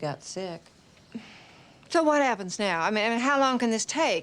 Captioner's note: sighs